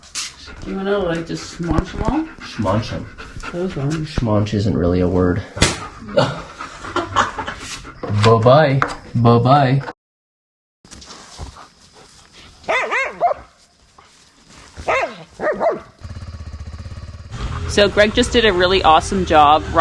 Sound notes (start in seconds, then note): 5.6 smacks insect; 5.8 laughs; 11.7 dogs barking